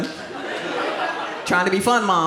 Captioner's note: audience laughs